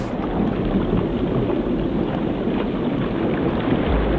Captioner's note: water gurgling